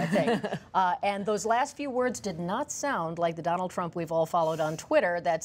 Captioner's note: laughter